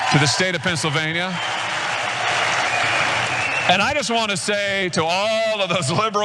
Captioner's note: applause